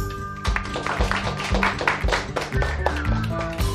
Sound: clapping!

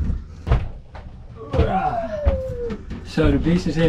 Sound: groaning

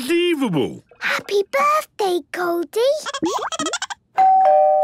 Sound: Goldie giggling; doorbell ringing

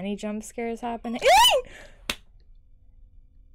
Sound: yelps

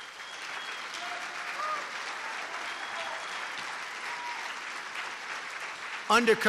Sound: applause

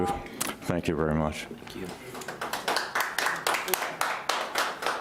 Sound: audience applauds

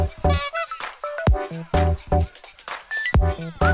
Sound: laugh

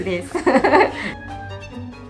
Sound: laughter

